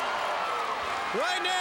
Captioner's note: crowd cheering